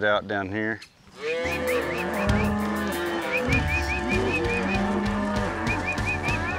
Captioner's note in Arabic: خوار، صفير